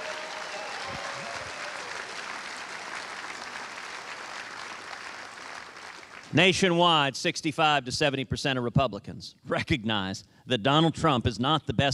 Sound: applause

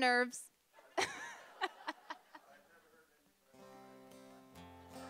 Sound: laughing

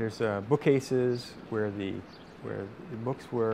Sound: birds chirp

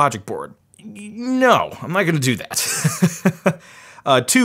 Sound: chuckles

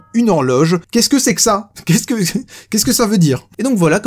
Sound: giggles

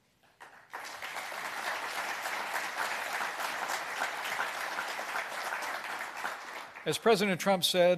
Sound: applause

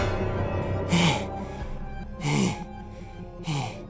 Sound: Eren pants heavily

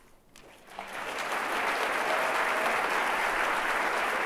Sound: audience applauds

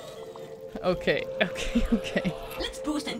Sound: embarrassed chuckle

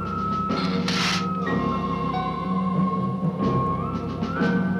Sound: Gila monster hissing

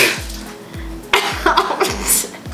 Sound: laughs

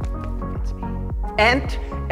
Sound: whispers

